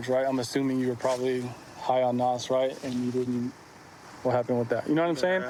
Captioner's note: none